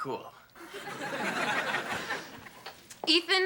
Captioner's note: audience laughing